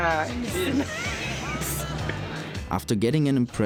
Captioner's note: laughs